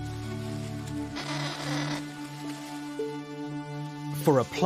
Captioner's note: kakapo cawing